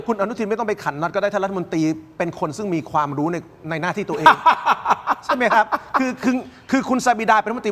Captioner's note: laughter